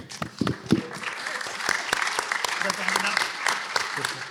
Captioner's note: applause